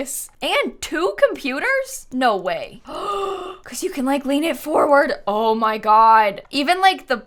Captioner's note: gasps